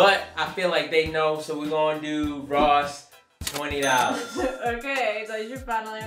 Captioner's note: ka-ching